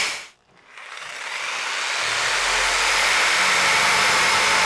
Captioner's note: saw cutting